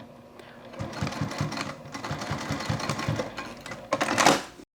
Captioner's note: sewing machine whirs